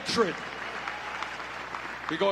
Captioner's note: applause